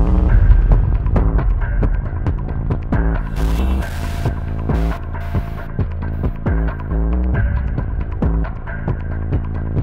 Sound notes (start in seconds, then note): 3.6 static crackles; 6.6 tense music